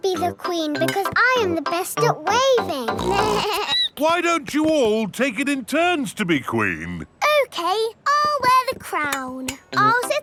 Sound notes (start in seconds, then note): 3.0 snorts; 3.0 bleats